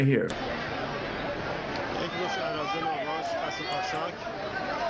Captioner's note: crowd mumbling